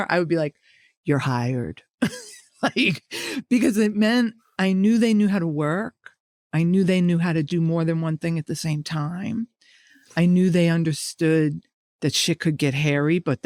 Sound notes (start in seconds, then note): 2.0 chuckling